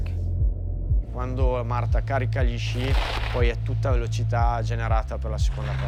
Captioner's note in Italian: parla in italiano